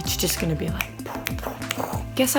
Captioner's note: snapping